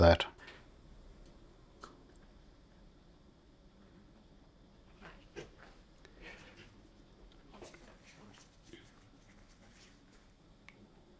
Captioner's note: silence